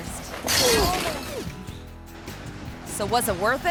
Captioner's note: fence rattles